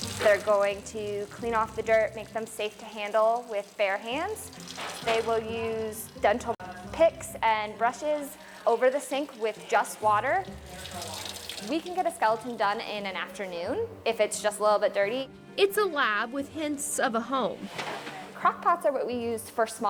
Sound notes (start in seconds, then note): 17.7 clattering